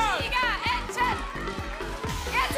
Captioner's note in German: Jubel